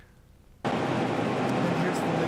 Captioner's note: machine buzzing